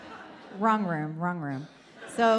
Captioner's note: audience laughs